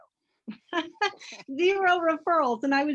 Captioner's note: laughs